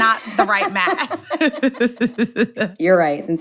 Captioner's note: laughter